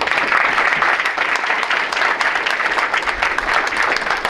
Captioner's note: audience applauds